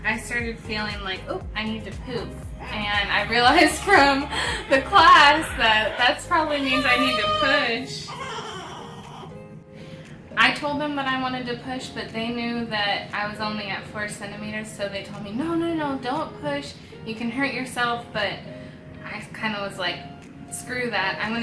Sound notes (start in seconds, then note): 3.9 laughs; 8.2 baby cooing